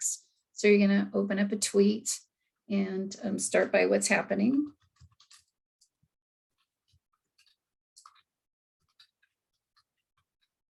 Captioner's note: typing